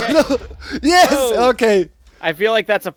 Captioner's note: explosion